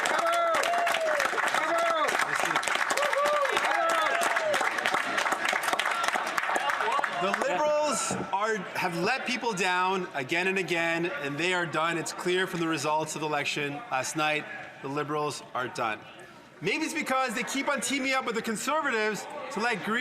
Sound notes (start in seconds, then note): 5.3 some Applause; 5.7 cheering